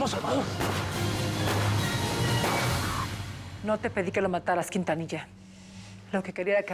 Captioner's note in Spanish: continúa el cruce de balas